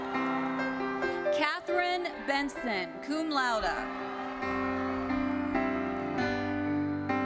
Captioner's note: audience cheering